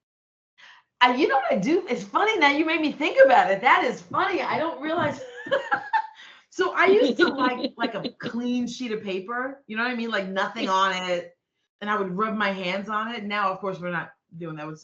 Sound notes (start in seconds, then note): 6.8 laughing; 6.8 chuckling